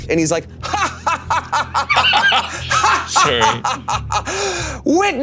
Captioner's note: Damien laughing maniacally